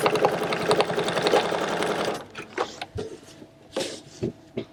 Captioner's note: machine whirring